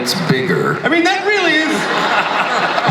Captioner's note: laughter